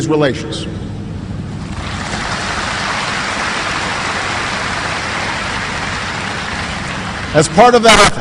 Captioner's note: applause